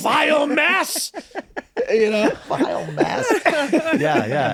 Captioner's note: laughing